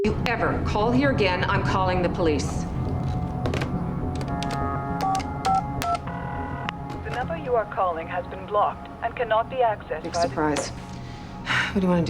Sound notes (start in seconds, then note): 4.1 line ringing; 5.1 beeping; 11.9 sighs